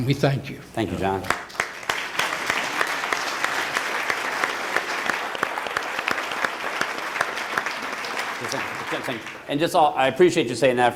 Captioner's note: applause